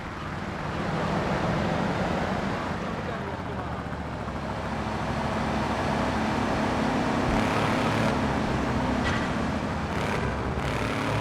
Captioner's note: engine revving